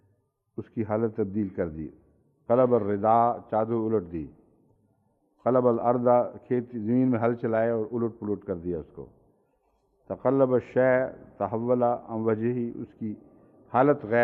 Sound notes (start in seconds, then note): 10.2 Arabic